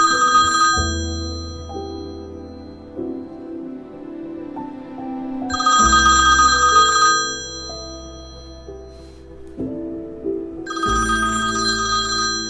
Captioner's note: phone Ringing